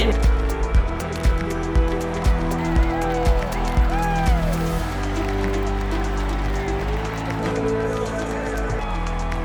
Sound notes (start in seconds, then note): 0.3 electronic music; 3.2 crowd cheering